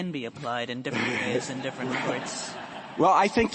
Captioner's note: laughter